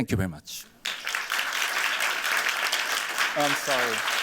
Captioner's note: applause